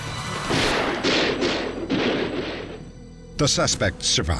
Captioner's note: gunshots